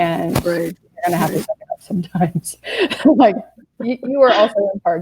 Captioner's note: laughs